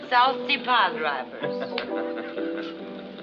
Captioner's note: laughs